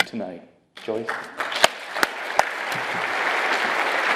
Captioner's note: applause